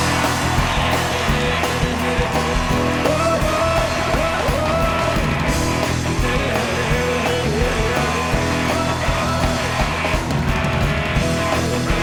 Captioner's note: cheers and applause; band playing